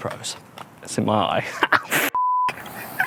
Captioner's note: beep